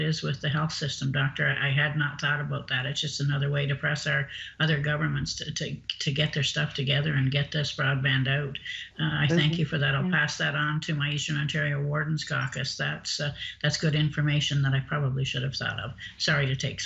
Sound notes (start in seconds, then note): 9.0 laughing